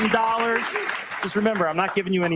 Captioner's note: audience clapping